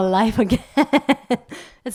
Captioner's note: laugh